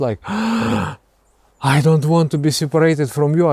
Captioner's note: gasping for air